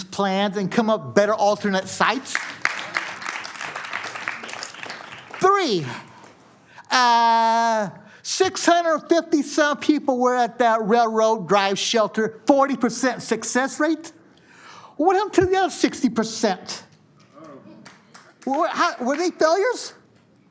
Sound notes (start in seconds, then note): 17.4 applause